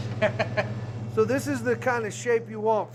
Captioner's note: laughter